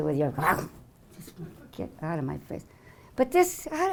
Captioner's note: growling